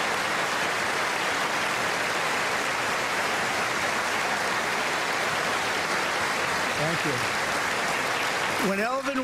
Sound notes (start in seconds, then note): 7.4 applause